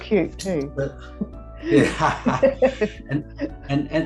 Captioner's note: laughs